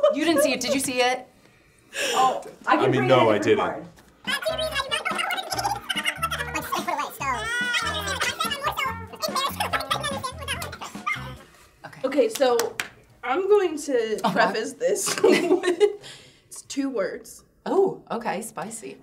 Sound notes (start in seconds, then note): 5.5 giggling; 14.7 laughing